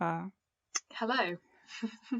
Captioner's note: giggles